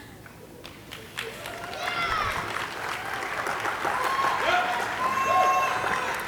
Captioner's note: audience applauding and cheering